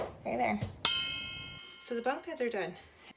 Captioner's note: ding